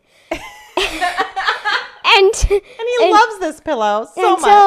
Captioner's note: laughs